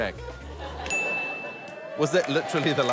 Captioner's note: ding!